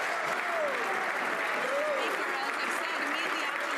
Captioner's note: some Applause